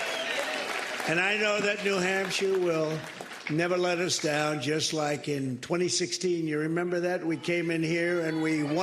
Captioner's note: cheers and applause